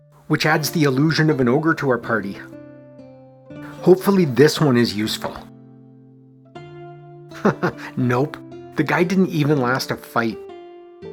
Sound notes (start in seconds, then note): 7.3 chuckles